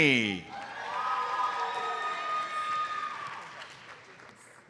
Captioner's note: audience cheers and applauds